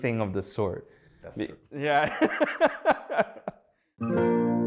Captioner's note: both laugh